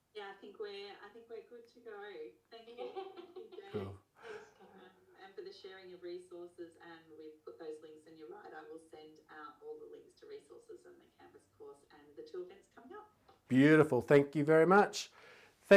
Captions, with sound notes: Yeah, I think we're good to go away. Thank you, James. (both laughing) - Cool. - After the sharing of resources and we've put those links in your mind, I will send out all the links to resources in the canvas of course and until next time up- - Beautiful. Thank you very much.